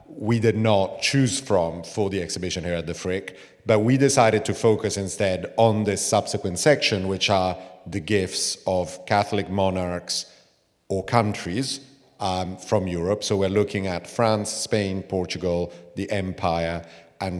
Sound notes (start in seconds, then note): none